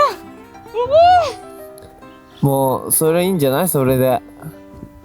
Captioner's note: laughs